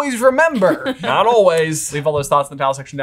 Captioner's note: laughing